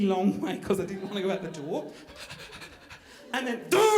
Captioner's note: puffing